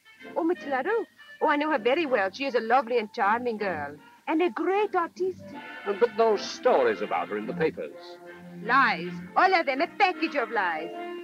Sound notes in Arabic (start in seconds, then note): none